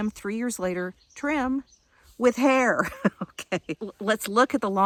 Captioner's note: laughing